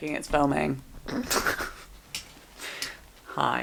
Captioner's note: laughs